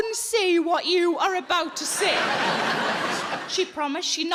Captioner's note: audience laughing